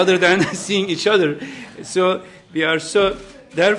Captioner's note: laughter